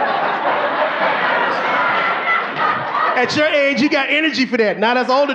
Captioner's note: audience laughing